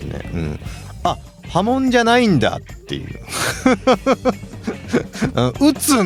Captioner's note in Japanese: 笑い